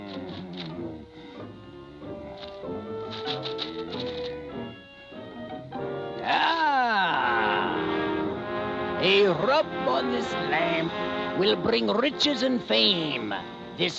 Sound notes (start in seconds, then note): 0.0 vizier muttering